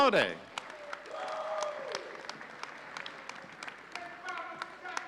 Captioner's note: audience applauding